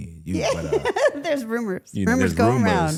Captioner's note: laughs